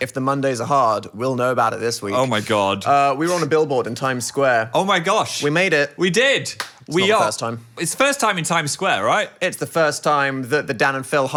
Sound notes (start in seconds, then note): 6.5 hands clap